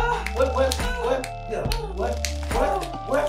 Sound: moaning

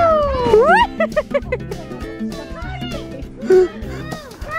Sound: laughs

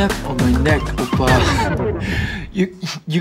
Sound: chuckles

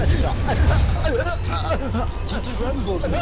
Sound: seizure sounds

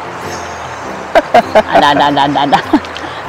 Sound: laughs

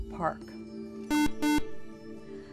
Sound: buzzer

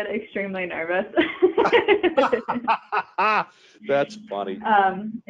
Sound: both laughing

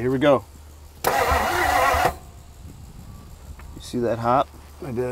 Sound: vehicle engine humming

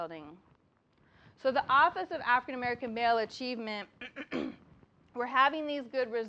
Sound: cough

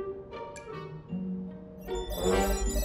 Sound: beeping

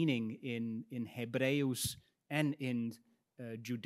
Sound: speaks in Latin

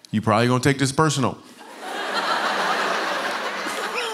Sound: laughter

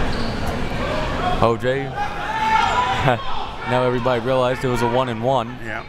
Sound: laughs

